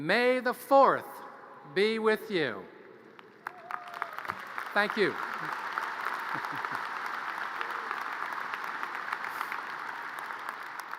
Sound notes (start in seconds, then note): 5.7 audience cheers and applause